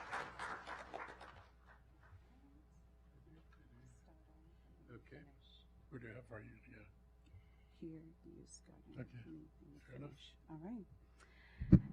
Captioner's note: applause